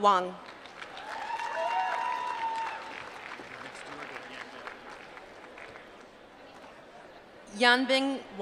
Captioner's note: applause